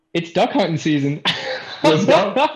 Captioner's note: laughter